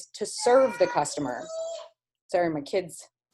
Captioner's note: kid yelling